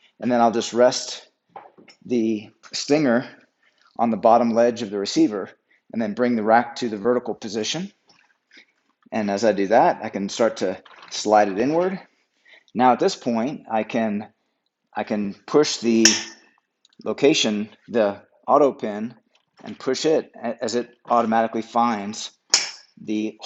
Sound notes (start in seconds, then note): 16.1 rack snaps; 22.3 rack clicks